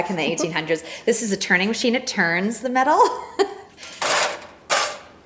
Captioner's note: chuckles; item clanging